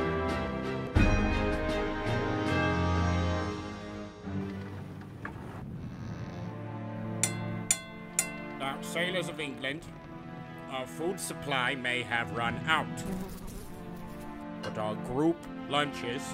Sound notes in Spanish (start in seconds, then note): 7.2 sonido de tenedor en taza; 12.8 mosca zumbando